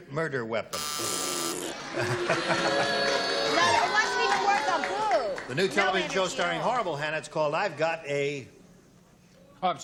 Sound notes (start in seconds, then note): 0.7 buzzer; 3.9 booing